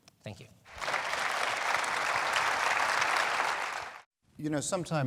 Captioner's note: audience applauding